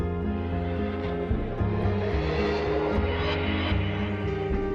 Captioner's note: swooshing sound